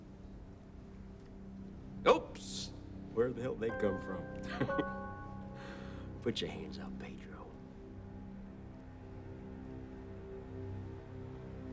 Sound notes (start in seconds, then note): 4.5 laughs; 8.5 suspenseful music